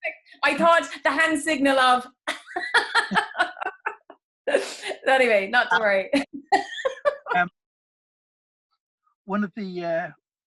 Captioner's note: laughing